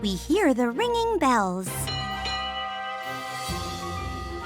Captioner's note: bell rings